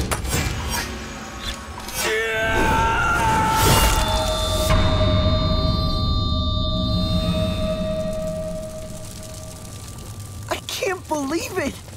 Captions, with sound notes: [shrieking] I can't believe it.